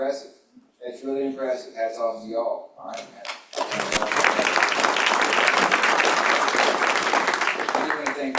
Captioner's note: applause